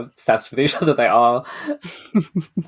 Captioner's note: laughs